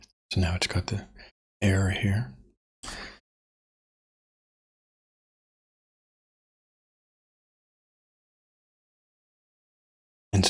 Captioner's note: blank Audio